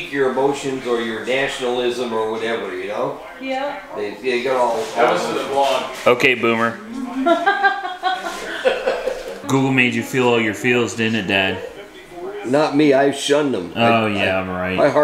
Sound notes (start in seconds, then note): 7.0 laughter